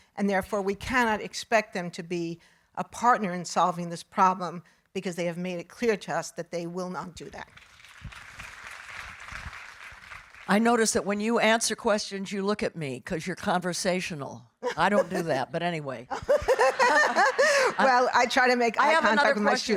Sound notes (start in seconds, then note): 7.6 audience applauding; 16.1 laughing